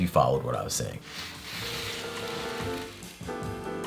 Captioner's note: tray sliding